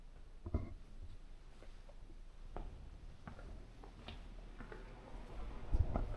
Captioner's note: footsteps